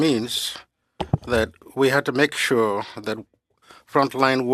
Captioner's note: speaking French